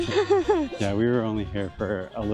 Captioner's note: laughter